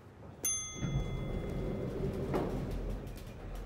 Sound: elevator dings

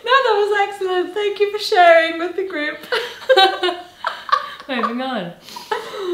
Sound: laughs

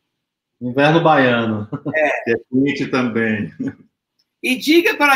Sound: speaks portuguese

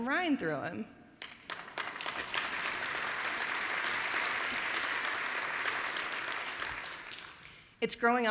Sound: applause

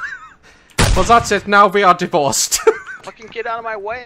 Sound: laughs; laughs

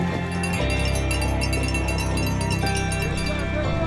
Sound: bells ringing

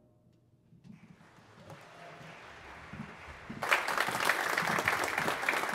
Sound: congregation applauds

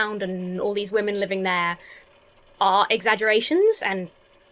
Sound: none

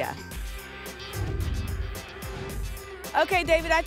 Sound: whoosh

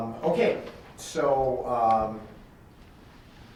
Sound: none

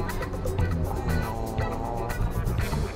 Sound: satisfied noise

